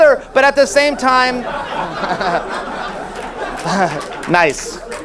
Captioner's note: audience laughs